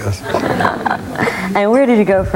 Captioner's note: laughing